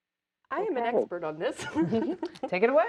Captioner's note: laughing